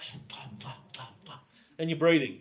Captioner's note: imitates breathing